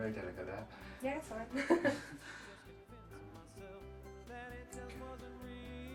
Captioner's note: laughing